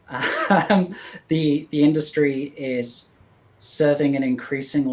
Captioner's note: laughs